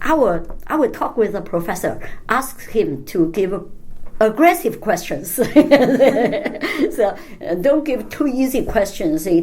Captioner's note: laughs